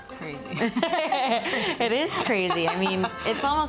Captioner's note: laughter